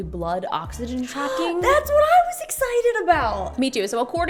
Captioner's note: gasps